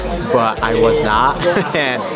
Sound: laughs

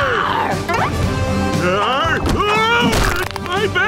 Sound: roaring; grunting

